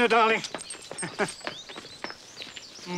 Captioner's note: laughs